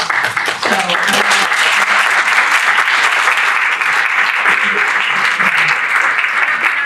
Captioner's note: applause; applause